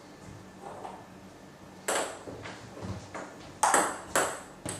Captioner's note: balls ping pong hitting continues